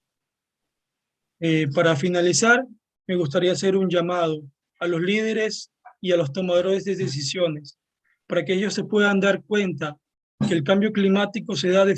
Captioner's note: speaking Spanish